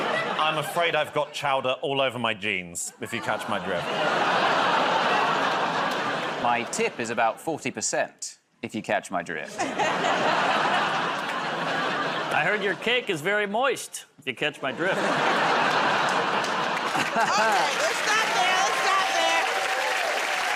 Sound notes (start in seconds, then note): 4.5 laughter, groaning; 9.4 laughter; 14.6 laughter; 20.3 cheers and applause